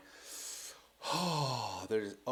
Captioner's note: sighs